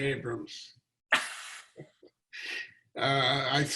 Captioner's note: laughing